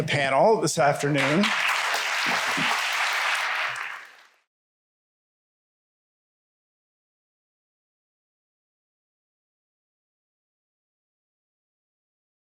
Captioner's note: applause